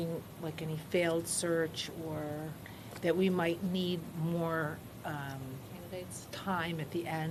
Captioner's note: none